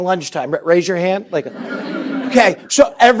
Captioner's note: laughter